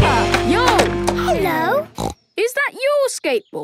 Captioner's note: snorts